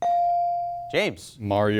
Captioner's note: buzzer chimes